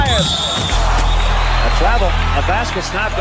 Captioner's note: whistle